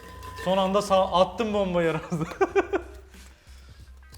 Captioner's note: laugh